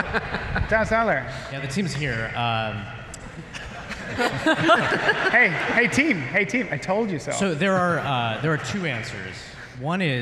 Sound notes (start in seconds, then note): 3.3 laughter